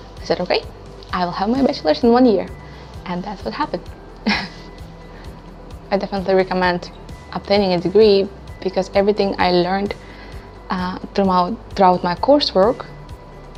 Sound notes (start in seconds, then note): 4.2 laugh